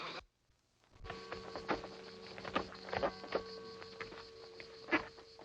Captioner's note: church bells dinging